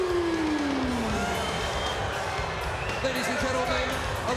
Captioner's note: crowd cheering